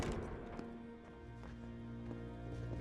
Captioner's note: door slams shut